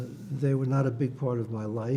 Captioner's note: none